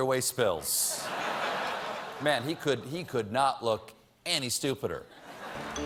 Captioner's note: laughter